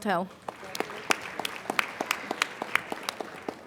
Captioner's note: applauding